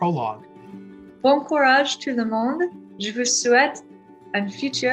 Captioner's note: speaking in French